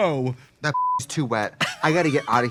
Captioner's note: beep; Katya laughing